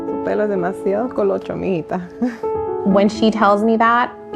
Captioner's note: speaking in foreign language